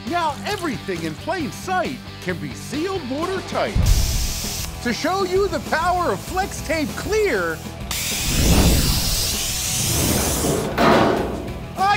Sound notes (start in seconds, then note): 7.9 saw cutting